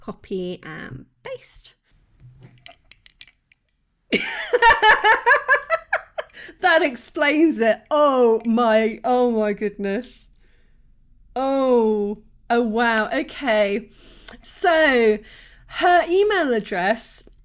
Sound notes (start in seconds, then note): 4.2 laughing